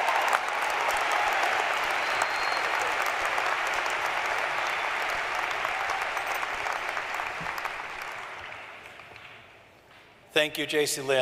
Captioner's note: cheering